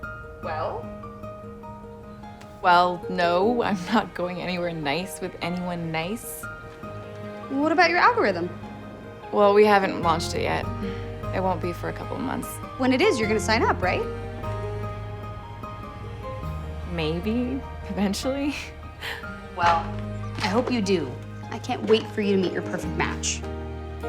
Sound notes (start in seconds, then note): 18.4 laughs